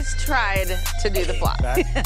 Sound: laughter

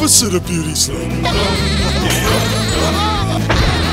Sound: laughing

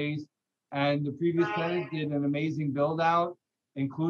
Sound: honking in the background

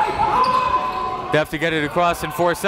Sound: coaches yelling

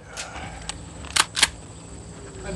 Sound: loads rifle

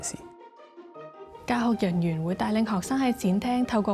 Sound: Cantonese

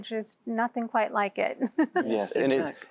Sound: giggle

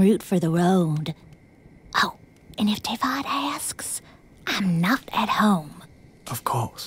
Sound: whispers

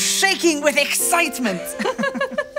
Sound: laughter

